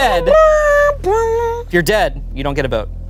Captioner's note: imitates sad horn blaring